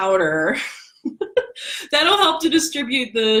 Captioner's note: laughs